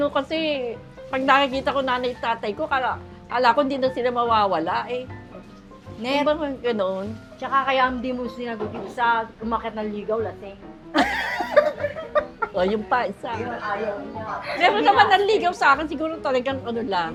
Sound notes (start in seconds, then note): 10.9 laughs